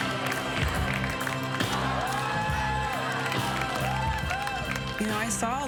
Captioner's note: cheers and applause